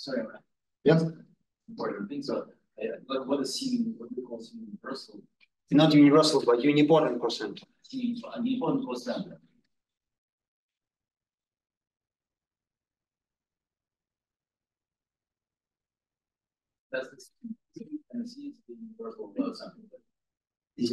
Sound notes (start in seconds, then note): 1.9 audio distorting; 7.9 audio distorting